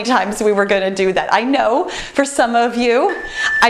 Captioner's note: timer beeps